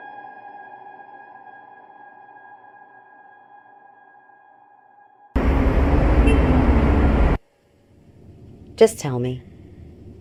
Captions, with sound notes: (engines rumbling) (horn honking) - Just tell me.